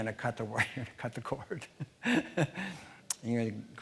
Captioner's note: laughing